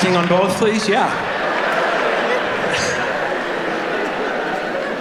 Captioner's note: audience laughing